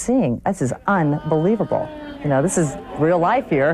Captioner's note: moaning